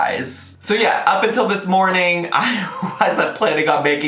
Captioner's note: laughs